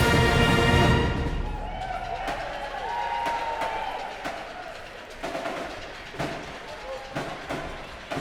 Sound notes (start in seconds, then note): 2.4 cheers and applause